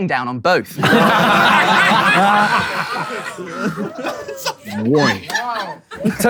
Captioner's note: people in room laughing